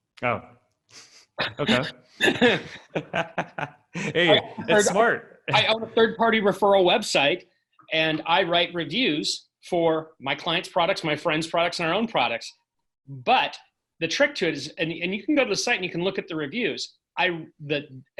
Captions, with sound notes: - Oh, okay. (both laughing) Hey, it's smart! - I own a third-party referral website and I write reviews for my clients' products, and my friends products, and our own products. But the trick to is, and you can go to the site, you can look at the reviews,